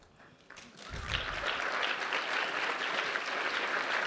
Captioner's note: applause